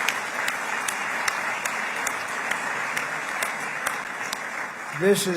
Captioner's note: applause